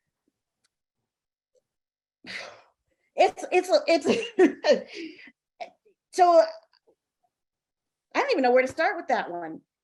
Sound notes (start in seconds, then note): 2.3 sighing